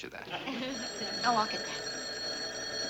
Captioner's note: phone rings